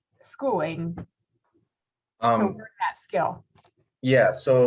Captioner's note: lip smacks